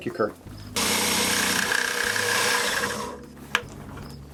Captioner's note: grinding sounds